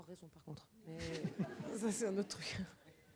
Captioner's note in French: rires